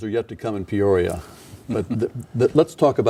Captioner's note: laughing